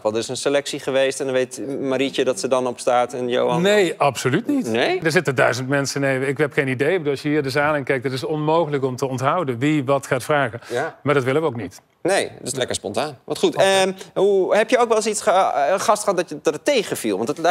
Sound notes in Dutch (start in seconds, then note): none